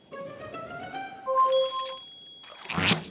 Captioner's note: bell dings